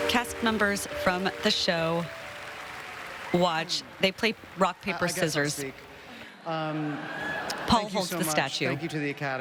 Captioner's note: applause